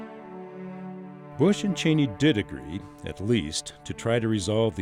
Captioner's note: voiceover